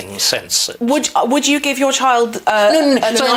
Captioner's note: interrupts